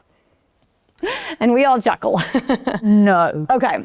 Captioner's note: chuckles